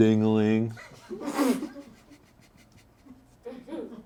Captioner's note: crew laughs